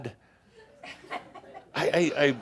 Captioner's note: some chuckles